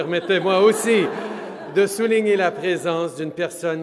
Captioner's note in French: Rires